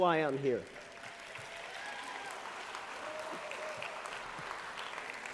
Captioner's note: applause